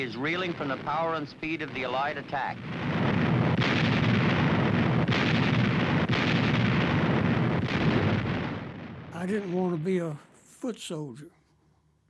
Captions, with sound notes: but he is reeling from the power and speed of the Allied attack. [artillery exploding] - I didn't wanna be a foot soldier.